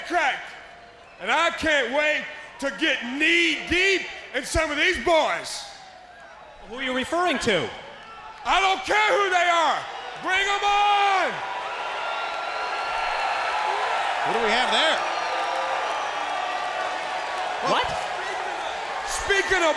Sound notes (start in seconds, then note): 11.8 crowd cheering